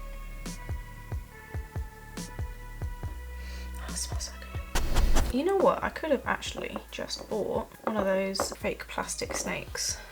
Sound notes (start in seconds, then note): 4.7 sniff; 4.7 dog sniff noises